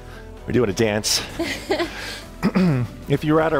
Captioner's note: both laughing; upbeat music; laughing